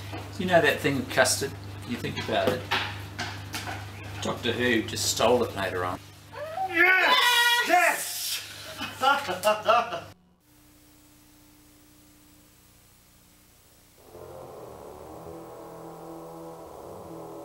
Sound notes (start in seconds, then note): 6.8 all cheer; 8.7 laughter